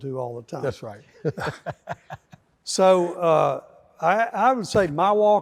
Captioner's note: laughs